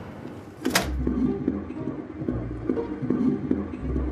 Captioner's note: heartbeat